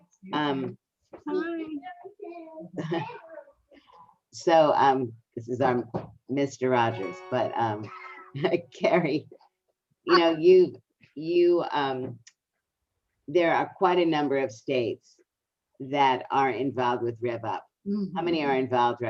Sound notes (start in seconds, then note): 4.1 laughs; 7.0 piano gliss sound effect with picture; 7.8 everyone laughs